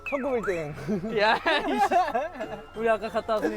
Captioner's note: huhuhuhuhu